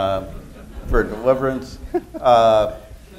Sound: laughter

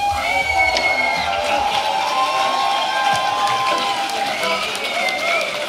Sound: cheering

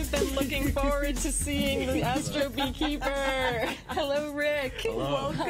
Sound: laughter

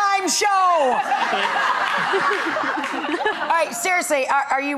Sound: laughing

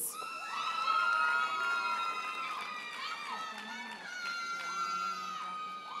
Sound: audience cheers and applauds

